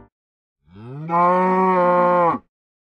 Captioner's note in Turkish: i̇nek sesi̇